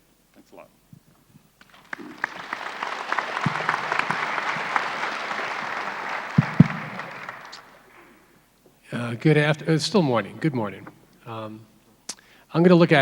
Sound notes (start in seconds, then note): 1.6 applauding crowd